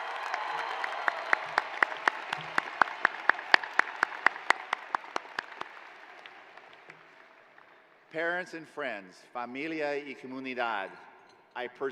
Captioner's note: cheers and applause